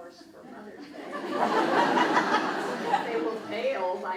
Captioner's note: crowd laughs